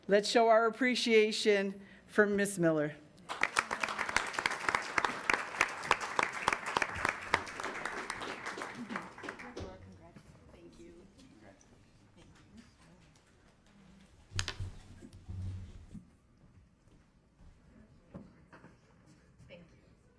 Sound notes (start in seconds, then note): 3.3 attendants clapping